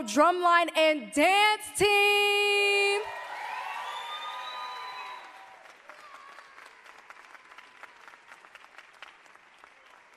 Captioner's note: cheers and applause